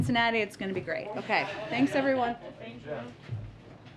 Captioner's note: laughter